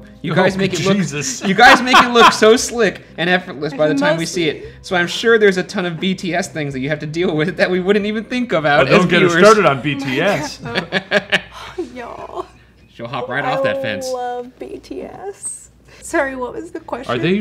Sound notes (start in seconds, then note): 11.7 sighs